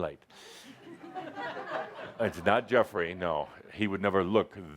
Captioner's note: some laughter